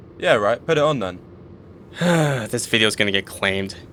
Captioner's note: sighs